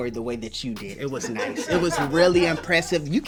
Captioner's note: crew laughs